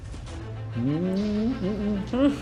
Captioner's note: humming